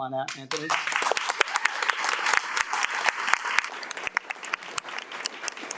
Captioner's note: audience cheers and applauds